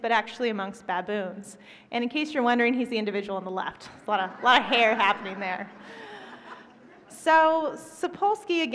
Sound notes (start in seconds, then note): 5.8 laughter